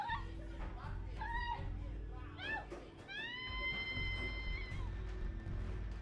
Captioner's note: Eliza screaming on the phone